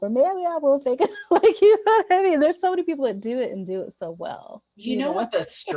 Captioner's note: laughs